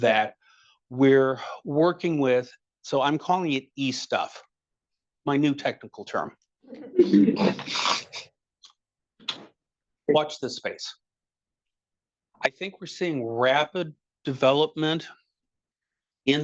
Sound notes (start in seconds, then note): 6.9 attendees laughing